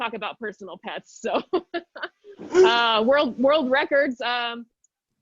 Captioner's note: chuckles